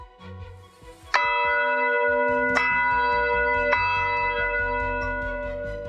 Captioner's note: bell ringing